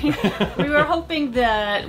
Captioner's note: both giggle